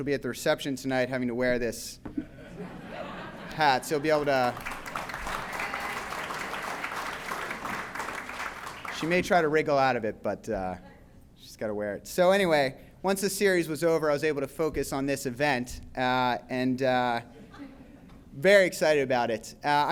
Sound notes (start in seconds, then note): 4.1 applause